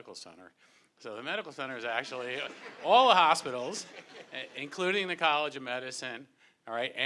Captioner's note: amid laughter